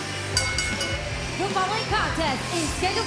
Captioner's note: bell ringing